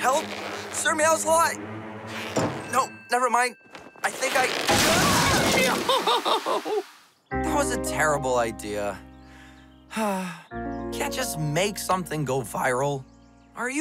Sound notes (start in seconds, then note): 4.8 screams; 5.6 laughs; 9.8 sighs